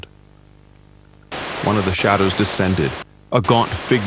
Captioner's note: Static